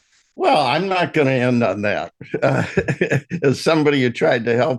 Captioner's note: laughs